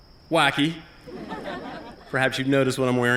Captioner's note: laughter